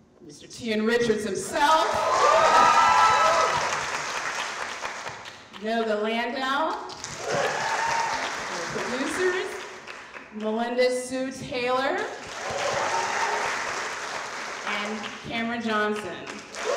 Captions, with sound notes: Mr Tian Richards himself! (audience cheering) Noga Landau. (audience cheering) And the producers, Melinda Hsu Taylor. (audience cheering) And Cameron Johnson.